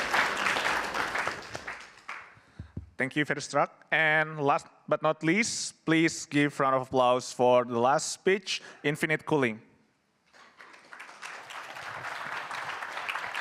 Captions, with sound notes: Thank you, Verustruct. And last but not least, please give round of applause for the last speech, Infinite Cooling. [APPLAUSE]